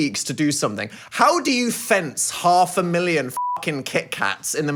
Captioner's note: beep